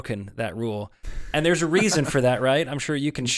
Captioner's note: laughs